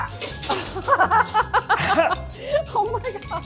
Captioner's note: laughs